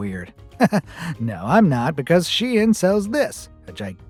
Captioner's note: chuckles